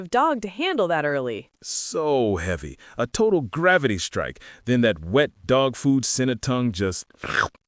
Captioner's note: slurp!